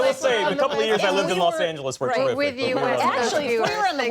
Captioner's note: laughter